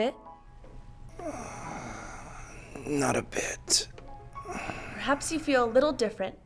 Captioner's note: sighs